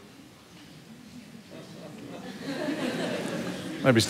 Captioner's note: laughter